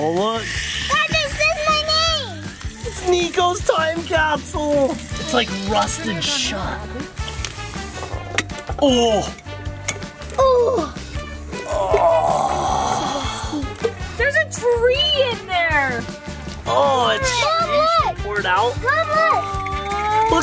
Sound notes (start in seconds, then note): 7.1 lid pops; 11.6 dad grunts